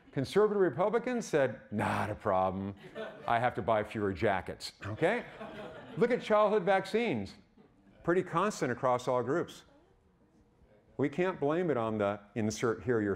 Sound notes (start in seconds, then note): 5.0 audience laughing